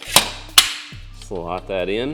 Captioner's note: metal clanking